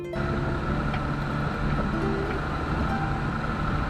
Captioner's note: car engine revs